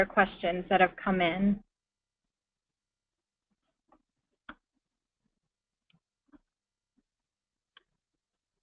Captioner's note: pause